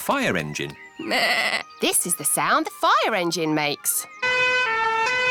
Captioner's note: bleats; siren blaring